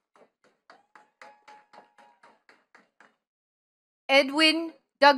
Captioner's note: attendees clapping